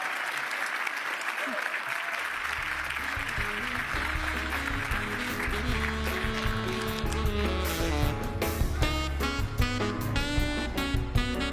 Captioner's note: cheers and applause